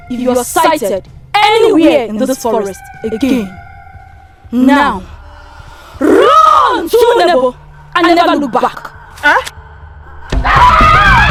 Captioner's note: screaming